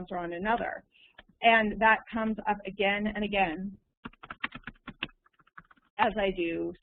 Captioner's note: typing